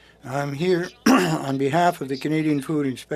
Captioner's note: speaking French